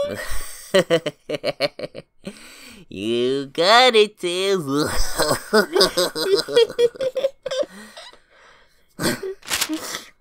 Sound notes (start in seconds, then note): 1.0 chuckles; 4.8 big bad wolf laugh; 5.2 giggles